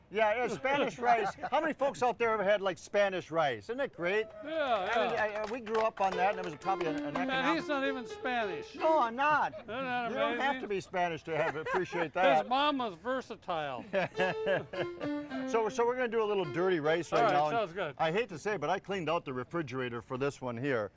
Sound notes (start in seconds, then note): 0.4 all laughing; 4.6 audience applauding; 6.1 upbeat piano music; 13.8 laughing